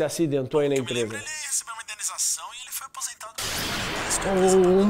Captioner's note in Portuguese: explosão